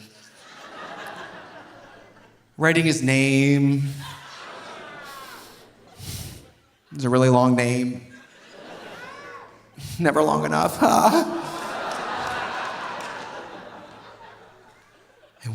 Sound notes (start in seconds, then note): 0.0 audience laughing; 3.9 audience laughing; 6.0 sighs; 8.1 audience laughing; 10.7 moans; 10.8 audience applauding